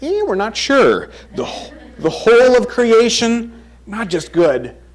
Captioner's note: crowd chuckles